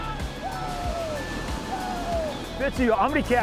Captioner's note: guys yelling in excitement